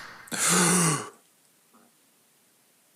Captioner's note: air hisses; deep inhale